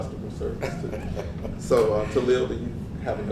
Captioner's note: laugh